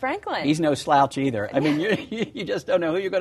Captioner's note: laughter